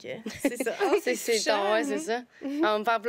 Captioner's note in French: rires